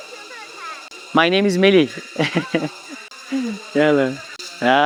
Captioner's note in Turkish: kahkaha